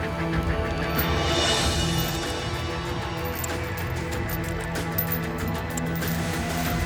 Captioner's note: suspenseful music; fire crackling